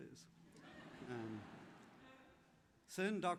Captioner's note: laughter